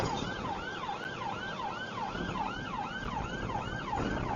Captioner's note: police car siren